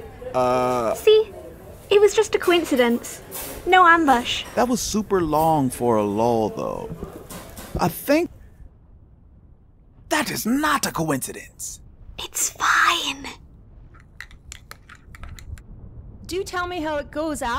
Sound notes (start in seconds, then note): 8.2 footsteps, silence again; 10.0 loud whisper; 12.4 whisper